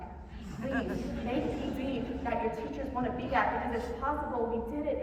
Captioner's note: laughter